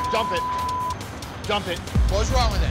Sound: beep

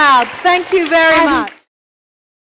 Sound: applause

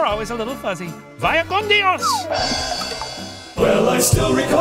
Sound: speaks in foreign language; upbeat music

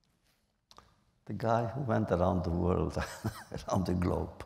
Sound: laughs

